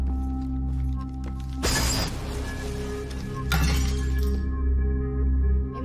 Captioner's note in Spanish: Cristales rotos